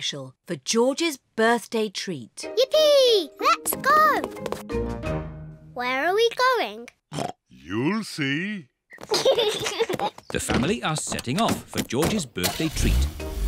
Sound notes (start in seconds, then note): 7.1 oinks; 9.0 kids giggle; 13.2 horn honks